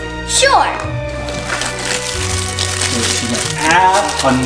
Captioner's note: wrapper crinkling